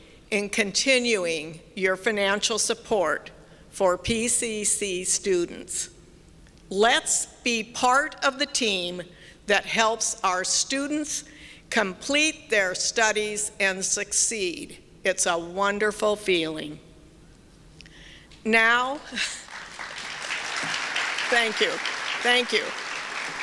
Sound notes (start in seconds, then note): 19.1 chuckles; 19.2 applause; 23.2 applause continues